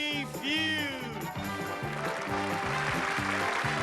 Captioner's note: applause